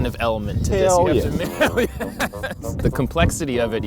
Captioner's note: laughs